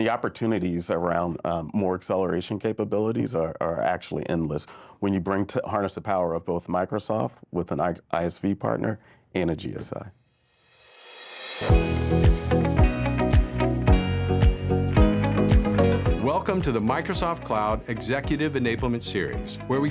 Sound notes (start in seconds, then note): 11.4 upbeat music; 16.1 voiceover